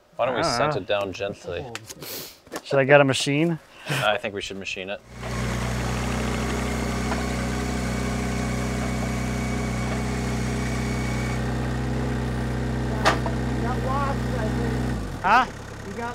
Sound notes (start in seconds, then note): 5.7 vehicle whirring